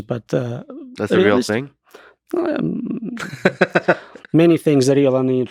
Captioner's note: Lex laughing